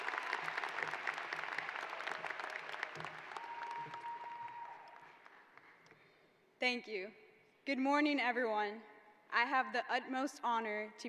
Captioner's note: cheering